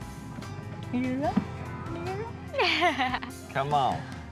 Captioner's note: giggles